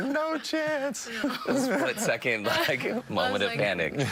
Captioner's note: laughter